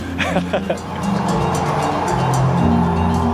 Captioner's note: laughter